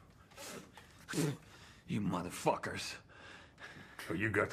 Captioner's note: spitting